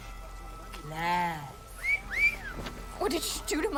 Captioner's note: wolf whistle